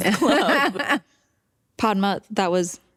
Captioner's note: laughter